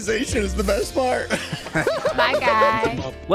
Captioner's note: laughs